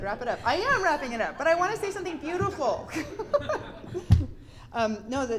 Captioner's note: giggles